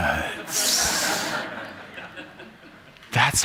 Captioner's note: laughter